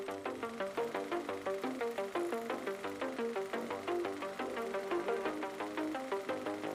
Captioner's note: tense music; motor whirring